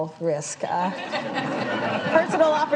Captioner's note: laughter